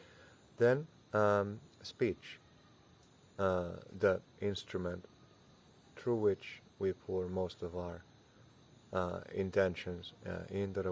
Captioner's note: speech